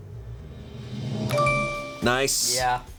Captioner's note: tense music building; bell chimes; button clicks